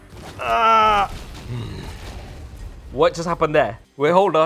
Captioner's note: grumbles